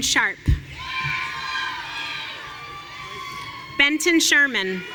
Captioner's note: audience cheering